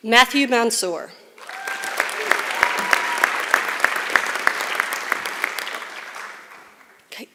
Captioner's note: applause